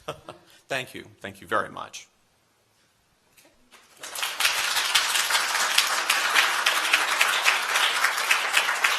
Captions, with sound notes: [laughs] Thank you, thank you very much. [applause]